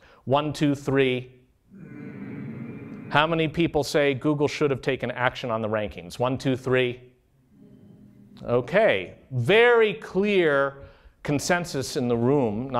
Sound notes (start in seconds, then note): 1.7 humming; 7.5 softer humming